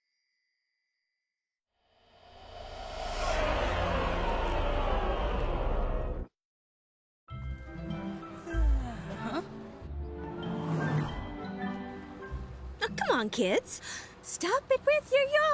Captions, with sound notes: [ Sighs ] Huh? Oh, come on, kids.